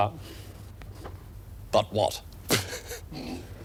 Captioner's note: chuckling